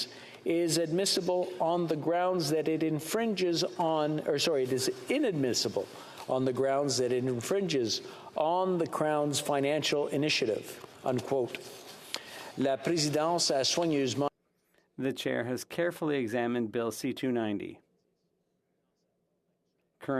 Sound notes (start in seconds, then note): 15.6 speaking French